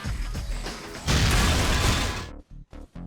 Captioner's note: explosion